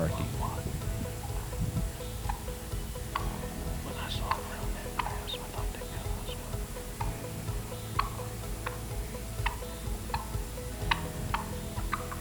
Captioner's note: whispering